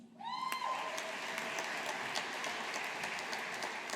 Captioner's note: audience applauding